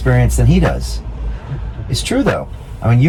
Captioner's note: laughs